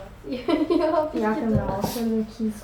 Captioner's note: laughter